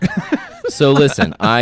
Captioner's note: laughs